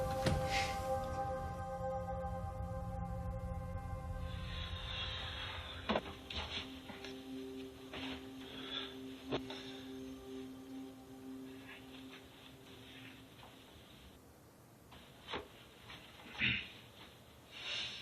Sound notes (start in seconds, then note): 3.0 tense music; 3.9 deep breathing